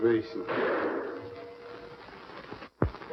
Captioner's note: gunshot